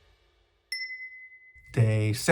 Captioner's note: ding sound effect